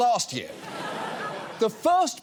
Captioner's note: audience laughs